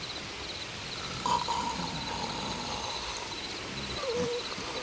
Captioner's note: Bruto snores